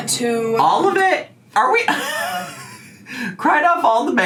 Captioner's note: laughs